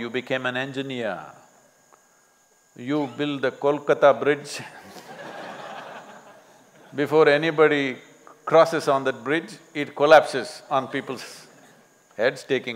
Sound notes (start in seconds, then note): 4.7 laughter